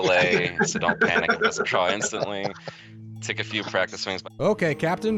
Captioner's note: laughing